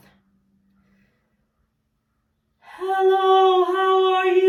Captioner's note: inhale